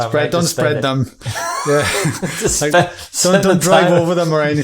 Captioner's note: laughing